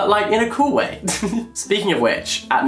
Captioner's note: laughs